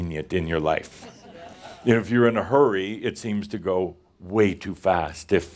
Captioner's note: a few chuckles and someone says “Yeah”